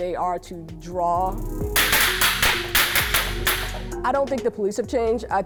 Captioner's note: gun firing